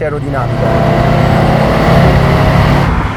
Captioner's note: engine grow in RPM, very angry